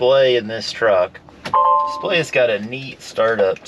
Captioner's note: display chimes